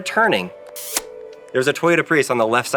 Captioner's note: lips smacking